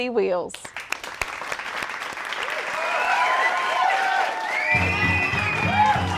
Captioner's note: applause